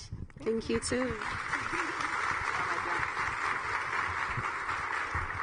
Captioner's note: audience clapping